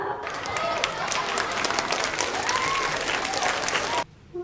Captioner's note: audience cheering